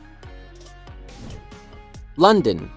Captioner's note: bright music continues; air whooshing